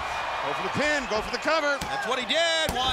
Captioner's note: crowd cheering